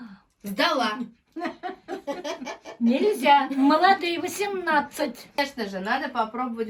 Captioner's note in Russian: смех